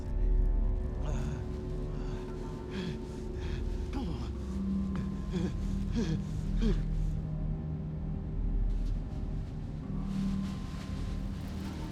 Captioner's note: gasping